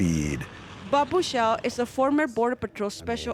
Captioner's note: voiceover